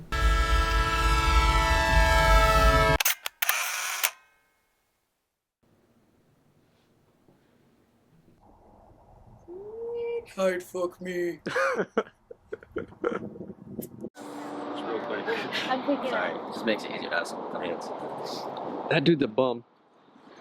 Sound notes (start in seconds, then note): 0.1 horn honks; 3.0 camera shutter clicks; 11.4 interviewer laughs; 14.0 Beth blows kiss